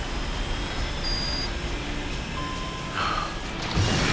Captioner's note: beeping; Engle Sighs